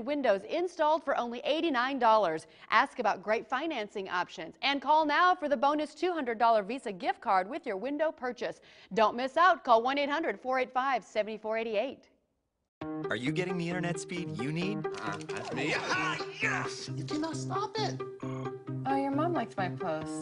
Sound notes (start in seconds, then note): 15.3 excited yelling